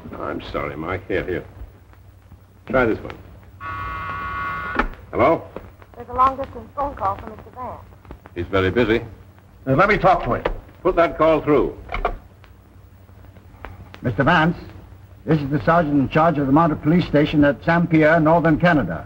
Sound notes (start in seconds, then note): 3.6 buzzer